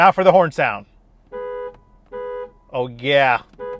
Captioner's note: horn blares